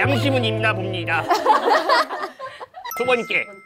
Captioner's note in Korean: ㅎㅎㅎㅎㅎㅎㅎ